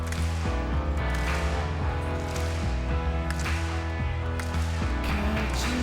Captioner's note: crowd clapping rhythmically